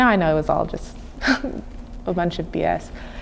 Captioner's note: chuckling